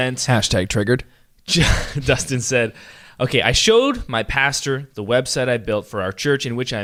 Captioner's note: laughs